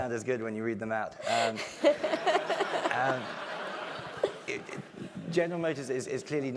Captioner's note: laugh